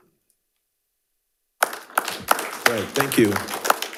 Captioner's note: audience applauding